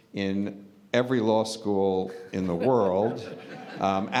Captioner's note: laughter